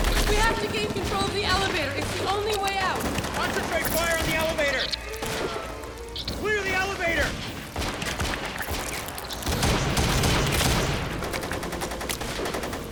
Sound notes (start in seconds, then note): 8.0 liquid squishing; 10.1 guns firing